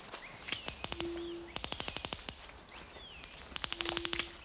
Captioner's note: detectors clicking